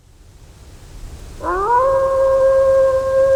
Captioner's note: wolf howling